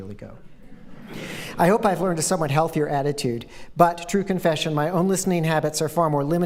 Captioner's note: laughter